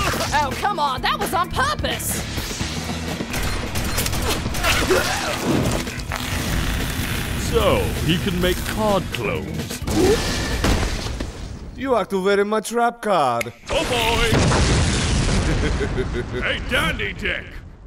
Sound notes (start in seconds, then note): 5.1 chokes; 13.4 snap; 14.2 boom; 15.3 chuckling